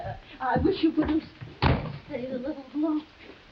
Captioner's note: door slams